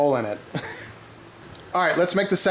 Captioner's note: laughs